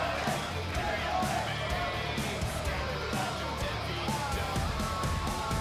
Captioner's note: fans chanting